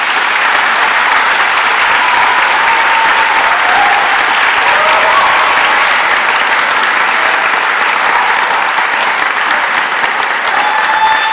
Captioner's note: applause and cheers